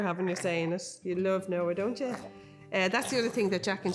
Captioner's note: laughs